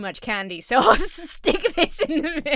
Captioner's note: Emma laughs